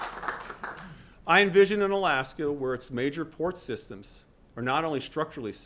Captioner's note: applause